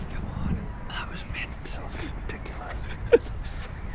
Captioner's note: whispers